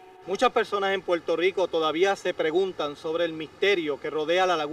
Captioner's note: speaking foreign language